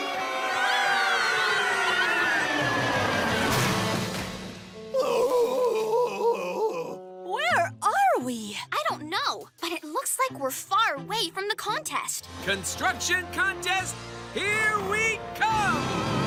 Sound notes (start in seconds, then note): 0.0 screaming; 4.9 groaning